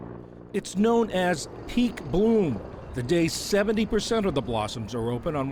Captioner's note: voice-over